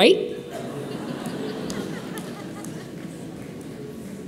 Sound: audience laughs

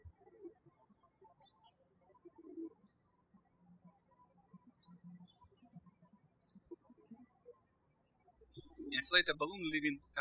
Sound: bird chirping

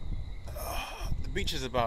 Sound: groans

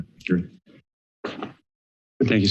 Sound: silence

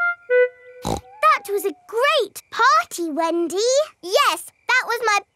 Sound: snorts

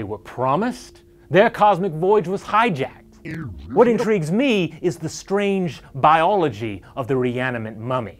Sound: bad VHS sound

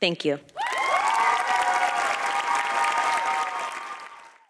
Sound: cheering and applause

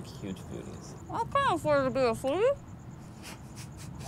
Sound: chuckles

